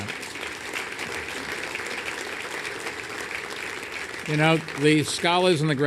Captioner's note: applause